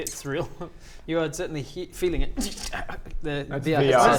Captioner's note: tsssskh